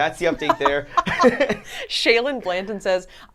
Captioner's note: laughs